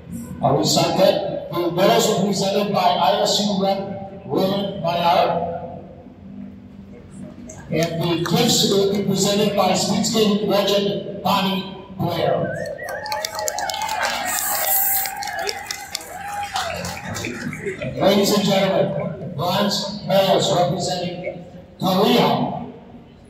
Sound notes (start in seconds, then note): 12.4 applause and whistles from the crowd